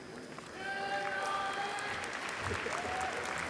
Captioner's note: applause